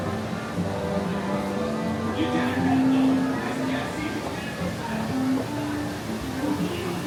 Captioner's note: gentle music; distant pirate chatter